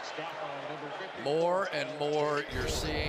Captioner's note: pa announcement